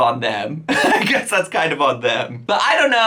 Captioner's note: laughs